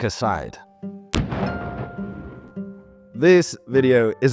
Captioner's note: tank booming